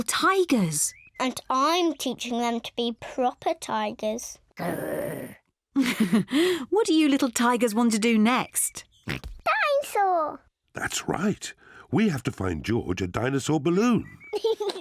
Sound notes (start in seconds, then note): 4.6 growls; 5.8 chuckles; 8.1 oinks; 14.3 giggles